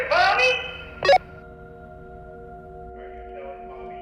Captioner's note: radio beeps